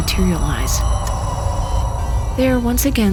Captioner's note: electronics settle and heart moniter begins beeping